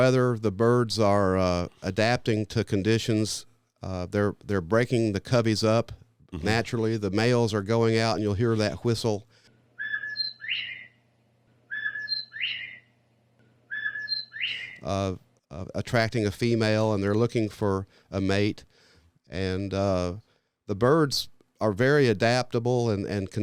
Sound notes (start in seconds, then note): 9.3 male bobwhite whistle